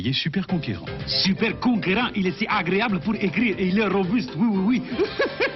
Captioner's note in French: voix cliché raciste